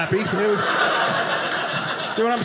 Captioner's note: audience laughing